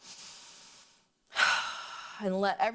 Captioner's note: inhaling and exhaling